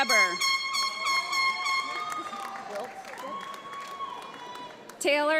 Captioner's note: audience applauds